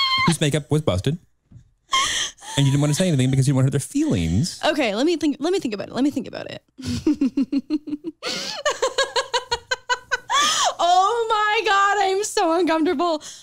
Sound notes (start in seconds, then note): 6.8 laughs